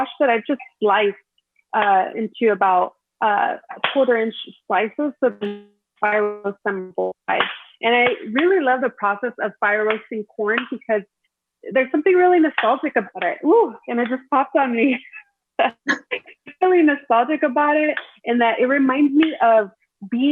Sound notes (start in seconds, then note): 5.9 audio distorts; 15.7 both women laughing